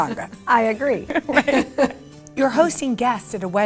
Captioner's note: laughing